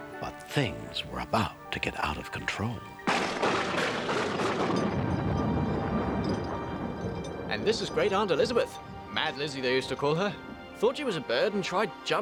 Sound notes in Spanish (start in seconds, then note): 3.0 la caída de rayos; 3.1 trueno aplaude; 4.2 traqueteo de la cadena